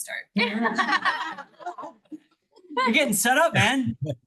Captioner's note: all laugh